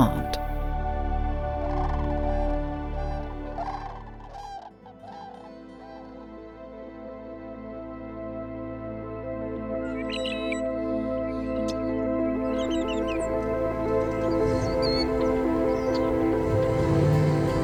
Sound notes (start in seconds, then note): 4.3 faint bird song